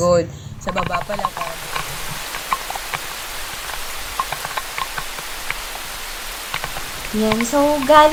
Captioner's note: heavy rain